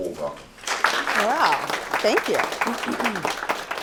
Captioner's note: applause